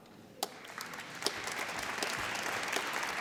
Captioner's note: applause